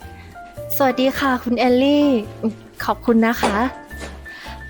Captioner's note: Pha Phrae, softly